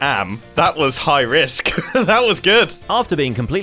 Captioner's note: laughs